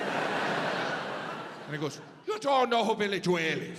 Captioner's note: audience laughs